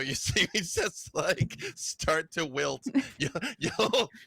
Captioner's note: chuckles